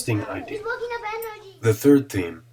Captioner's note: chatter